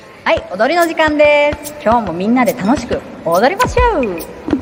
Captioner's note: foreign language